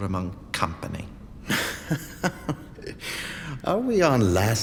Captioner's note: Luthor laughs